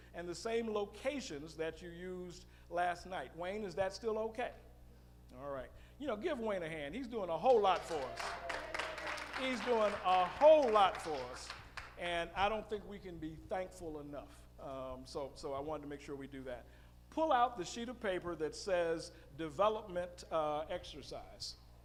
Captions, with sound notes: and the same locations that we used last night. Wayne, is that still okay? Alright, you know, give Wayne a hand. (audience clapping) He's doing a whole lot for us. He's doing a whole lot for us. And I don't think we can be thankful enough, so I wanted to make sure we do that. Pull out the sheet of paper that says development exercise.